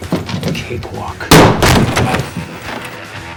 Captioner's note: gunfire